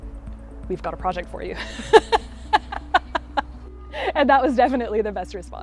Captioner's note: laughing